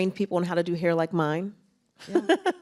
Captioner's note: laughs